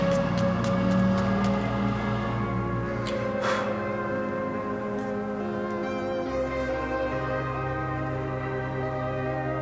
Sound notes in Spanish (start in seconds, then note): 3.5 sopla aire